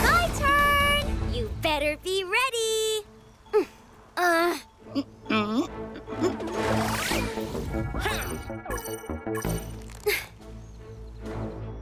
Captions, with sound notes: - My turn! You better be ready. (both grunting) (intense music)